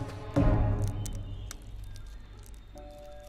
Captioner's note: cracking noises